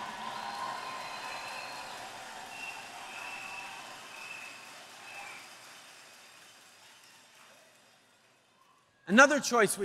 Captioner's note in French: Acclamations et applaudissements